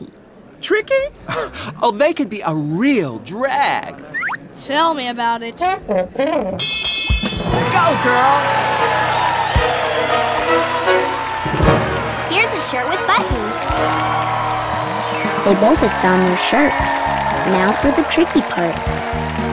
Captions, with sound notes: Tricky? Oh, they can be a real drag. Tell me about it. [bell rings] Go, girl! [cheering] Here's a shirt with buttons! They both have found their shirts. Now for the tricky part.